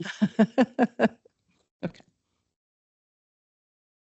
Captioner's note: giggles